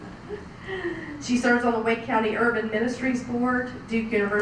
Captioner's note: laugh